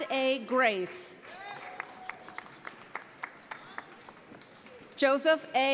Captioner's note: audience applauding